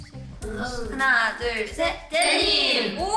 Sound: speaks in Korean

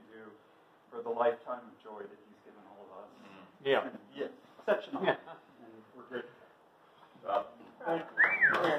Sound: applause

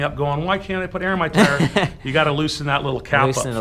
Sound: laughs

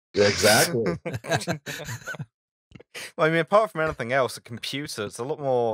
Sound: laughter

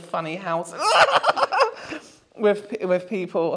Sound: Pennywise Cackle?

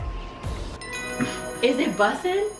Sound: chimes

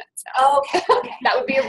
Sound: voiceover

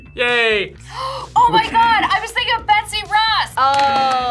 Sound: gasps

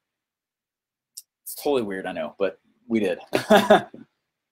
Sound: laughs

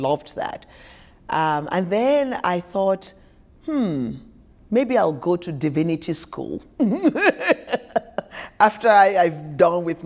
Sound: laughter

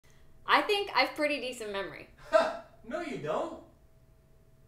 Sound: laugh

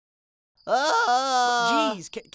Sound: screaming

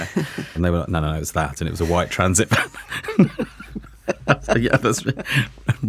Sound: both laughing

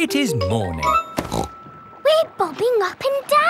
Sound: snorts

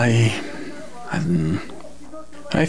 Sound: sighs

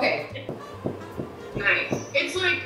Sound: quiet thumping

